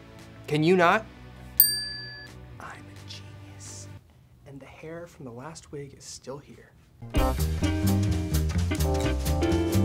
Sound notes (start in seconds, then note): 1.6 bell dings; 7.1 jazzy music